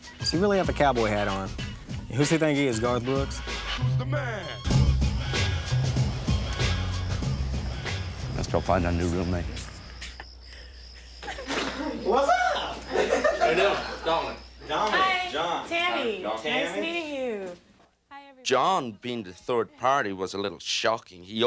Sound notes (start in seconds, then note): 5.1 gentle music; 7.2 crickets hum